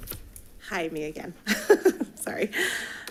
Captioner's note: laughs